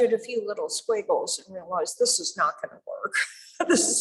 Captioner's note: chuckles